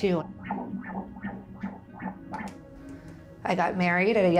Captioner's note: baby ultrasound beating